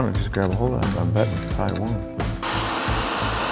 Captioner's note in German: leise gesprochen